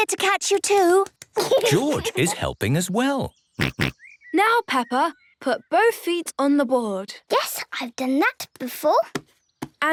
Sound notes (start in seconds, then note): 3.6 snorts